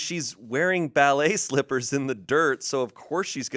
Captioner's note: none